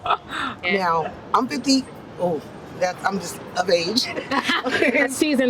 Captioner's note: laughs loudly